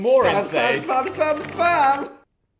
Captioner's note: keyboard clacking